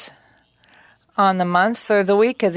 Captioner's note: speaking French